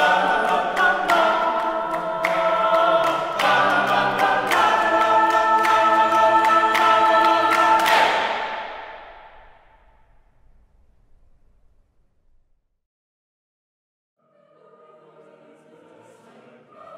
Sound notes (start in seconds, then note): 7.9 full Ensemble Shouts